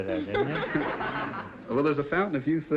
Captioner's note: audience laughter